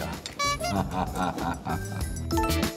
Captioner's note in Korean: 웃음